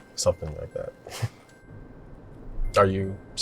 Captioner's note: chuckles